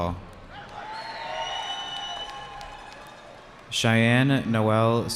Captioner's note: cheering